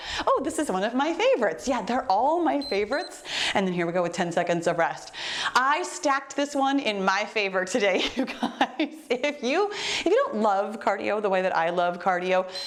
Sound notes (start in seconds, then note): 2.5 timer beeps; 8.5 laughs; 12.4 timer beeps